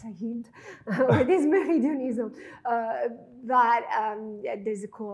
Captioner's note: chuckling